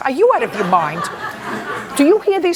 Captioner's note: laughter